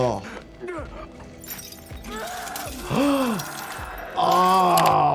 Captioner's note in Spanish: personaje gruñendo y gritando